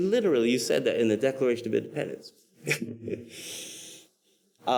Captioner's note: laughs